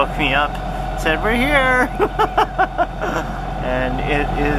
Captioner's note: laughs